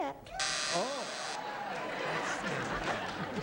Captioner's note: buzzer